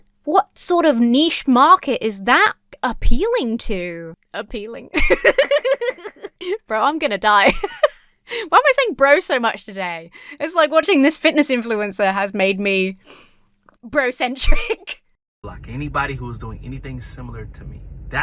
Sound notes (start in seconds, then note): 4.9 giggles; 7.2 laughs